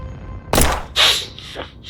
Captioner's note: gunshot; startles and gasps